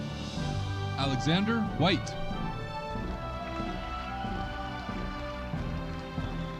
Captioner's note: audience cheering